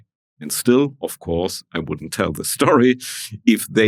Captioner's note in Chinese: 大笑